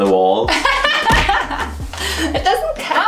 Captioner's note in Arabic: يضحك